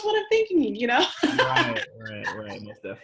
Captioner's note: laughs